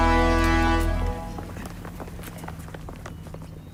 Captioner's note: hurried footsteps; clipty clap, clipity clap